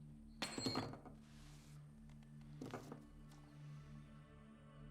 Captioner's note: badge clanging